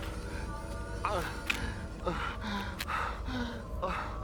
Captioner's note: groaning, Gasping